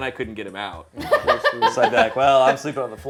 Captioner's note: laughs